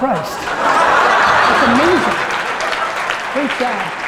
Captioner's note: audience applause; audience laughter